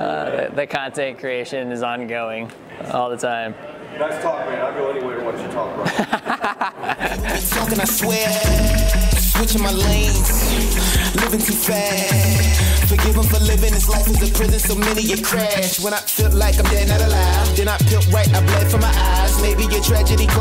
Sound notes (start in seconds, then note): 5.8 laughter; 7.9 upbeat music